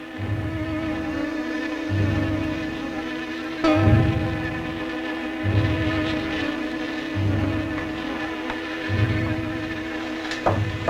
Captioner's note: buzzing; knocking